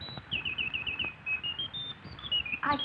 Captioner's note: bird chirping